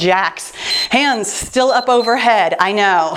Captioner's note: timer beeps